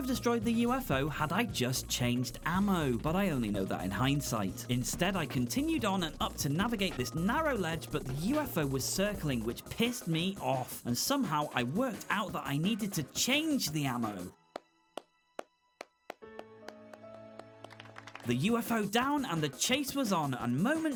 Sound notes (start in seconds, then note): 15.7 round of applause